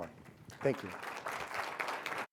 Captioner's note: audience claps